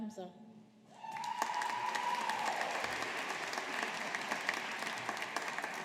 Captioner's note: audience applauding